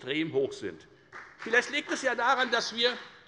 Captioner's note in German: Beifall bei der FDP